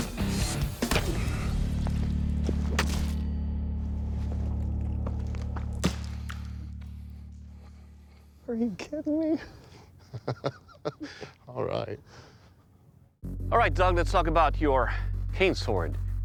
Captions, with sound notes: Are you kidding me? [laughs] All right. All right, Doug, let's talk about your cane sword.